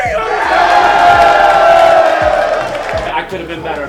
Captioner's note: cheering